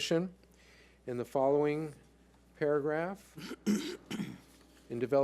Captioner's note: clears throat